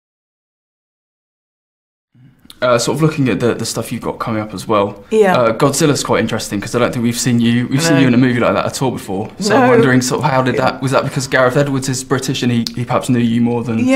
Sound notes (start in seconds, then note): 9.3 laughingly